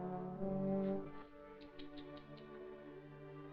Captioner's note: tuts